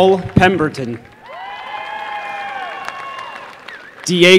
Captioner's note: applause